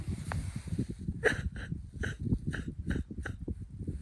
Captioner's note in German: weint